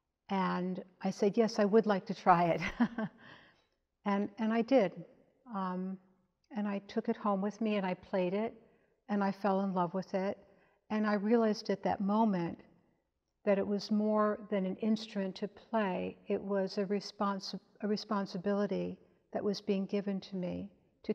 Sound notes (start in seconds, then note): 2.6 chuckles